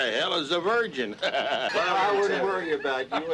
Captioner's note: men laughing